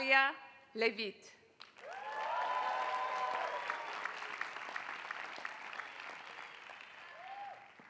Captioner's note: applause